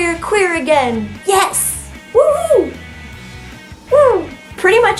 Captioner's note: excited wooing